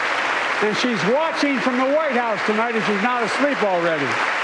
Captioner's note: applause